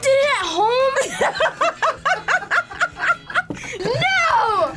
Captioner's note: laughs